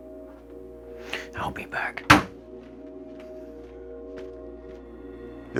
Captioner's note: bangs table